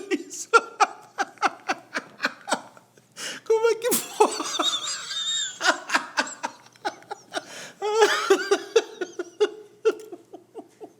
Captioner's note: laughs